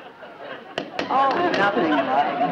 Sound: Brad tapping light

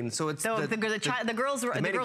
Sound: foreign language

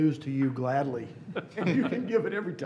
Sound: laughing

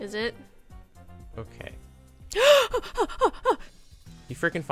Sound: gasp; running breath

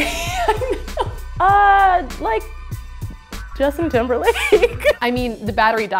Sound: laughing; laughs

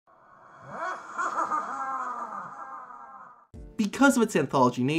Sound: low cackling

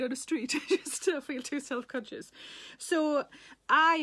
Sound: Sarah laughs

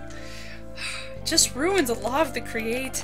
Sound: sigh

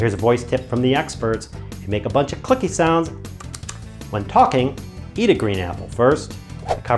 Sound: click, click, click

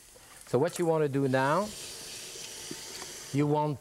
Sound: sink running

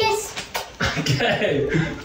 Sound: person kissing paper

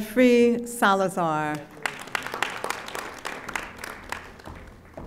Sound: audience applauding

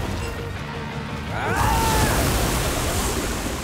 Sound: screaming

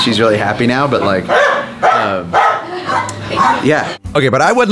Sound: dogs barking

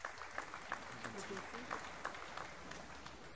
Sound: applause

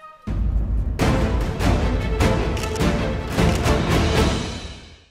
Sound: camera clicks

